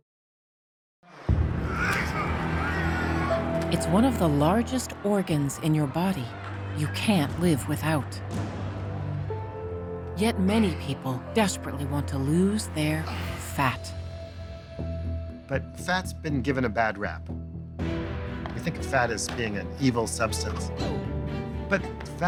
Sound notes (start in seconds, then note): 1.6 wrestlers grunting